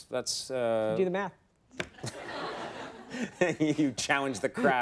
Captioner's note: audience laughs